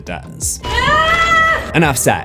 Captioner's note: screams